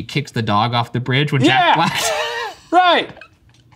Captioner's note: laughs